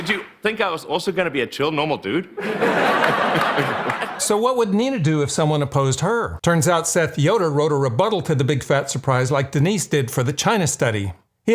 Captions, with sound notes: Did you think I was also gonna be a chill normal dude? (audience laughing) - So what would Nina do if someone opposed her? Turns out Seth Yoder wrote a rebuttal to the big fat surprise like Denise did for the China Study.